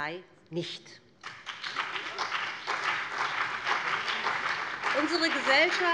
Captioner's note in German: Beifall BÜNDNIS 90/DIE GRÜNEN und vereinzelt CDU